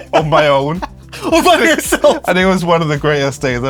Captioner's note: laughs